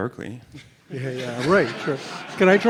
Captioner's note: laughing